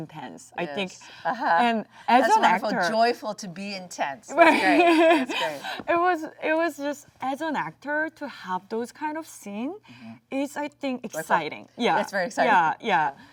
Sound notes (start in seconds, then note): 4.4 laughs